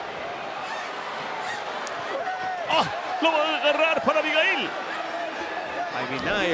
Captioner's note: applause